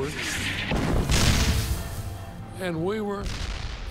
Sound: cannon shots exploding

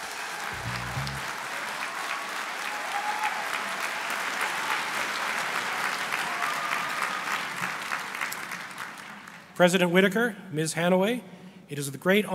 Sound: applause

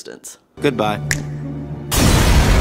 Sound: violent explosion

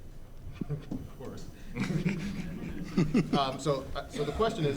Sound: audience laughing

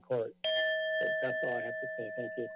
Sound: timer bell rings

